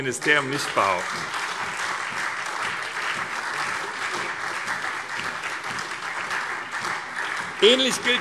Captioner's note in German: Heiterkeit und Beifall SPD und DIE LINKE